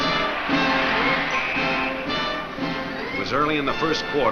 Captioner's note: whistle blows